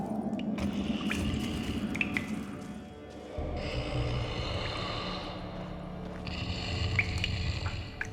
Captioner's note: giant snoring softly